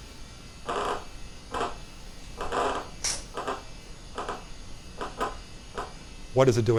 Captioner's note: clicking sounds